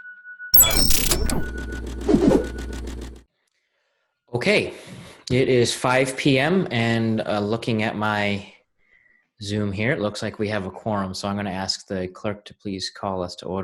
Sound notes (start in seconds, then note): 0.6 disk scratching; 0.7 air whooshing